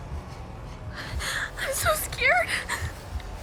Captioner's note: whimpering